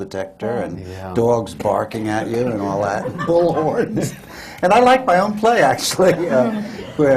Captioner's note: laughs; laughter